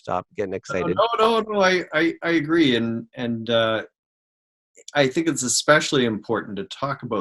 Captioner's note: microphone cuts out